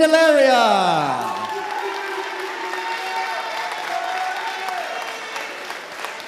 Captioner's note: audience applauding and cheering